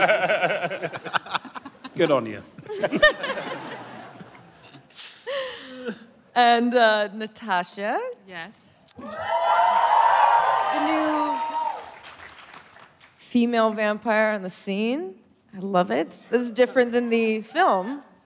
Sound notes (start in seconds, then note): 0.0 laughter; 9.0 cheering